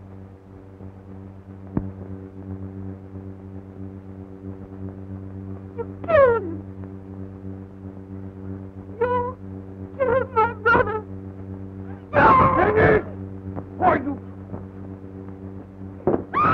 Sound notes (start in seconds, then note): 12.6 speaking russian